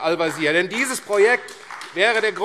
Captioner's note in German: Beifall AfD